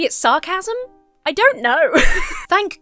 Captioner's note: laughs